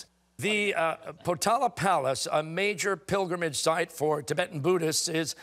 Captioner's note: none